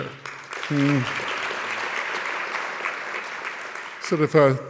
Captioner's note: audience clapping